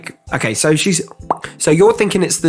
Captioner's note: popping sound of puckering poo finger